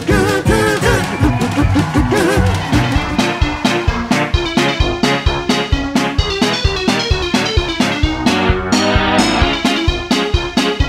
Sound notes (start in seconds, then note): 0.0 audience cheering; 3.4 happy upbeat music